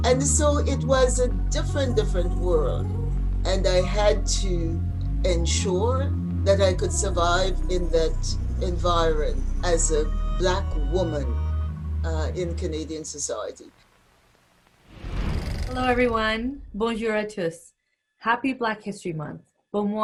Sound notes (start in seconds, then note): 13.7 whooshing